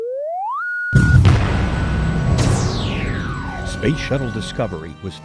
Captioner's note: sound Effects